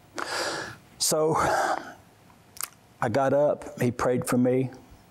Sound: inhales deeply

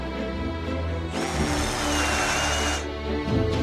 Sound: auger drilling; inspirational music continues

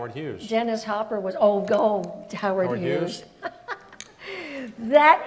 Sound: laughs

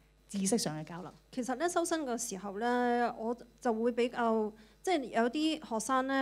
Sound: Cantonese

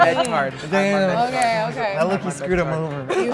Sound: group laughing

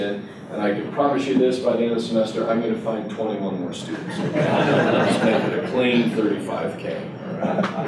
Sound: laughter

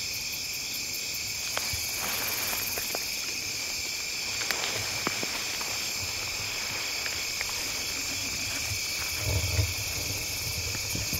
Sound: crickets chirping

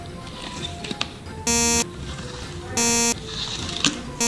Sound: beeping

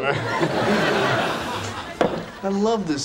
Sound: audience laughing

